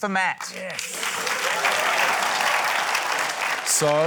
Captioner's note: cheering, applause